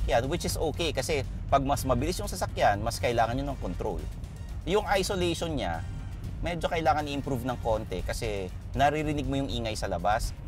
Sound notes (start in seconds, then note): none